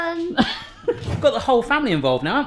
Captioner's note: laughing